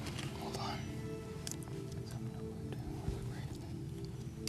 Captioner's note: whispering; beeping